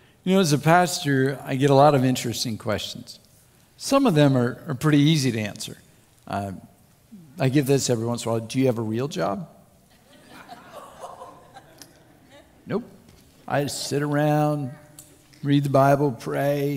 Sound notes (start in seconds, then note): 9.9 crowd Laughs